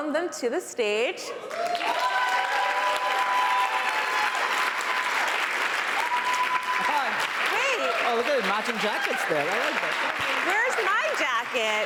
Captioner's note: applause